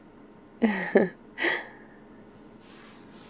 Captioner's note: laughs